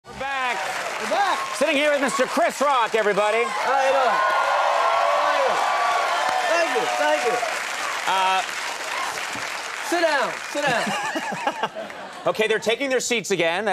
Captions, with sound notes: We're back. (audience clapping) We're back. Sitting here with Mr. Chris Rock, everybody. How ya doin'? Thank you. Thank you, thank you. Ah... (audience continues applause) Sit down. Sit down. (Conan laughs) Okay, they're taking their seats again.